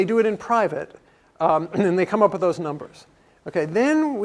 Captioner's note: cough